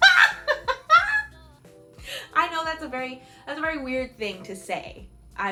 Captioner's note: laugh